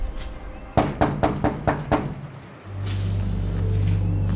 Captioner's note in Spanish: Toques en la puerta